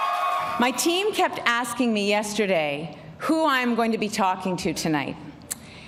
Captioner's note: applause and cheering